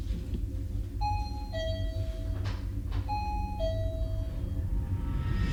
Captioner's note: motion detector beeping